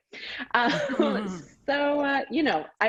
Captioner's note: both laugh